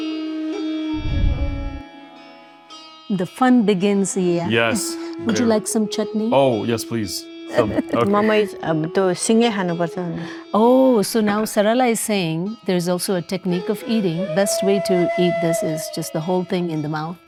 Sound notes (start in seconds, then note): 8.2 speaking Nepali